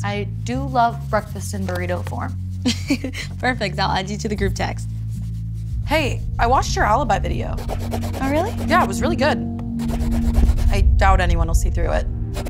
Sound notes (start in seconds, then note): 2.7 laughs